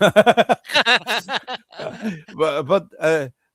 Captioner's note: laughter